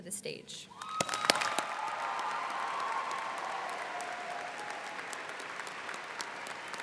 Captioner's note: students cheering and applauding